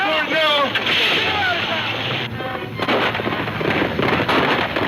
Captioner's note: gunfire pops